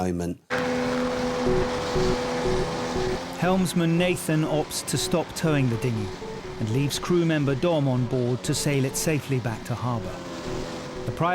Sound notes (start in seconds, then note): 0.7 engine roaring